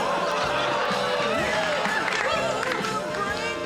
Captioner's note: laughter and applause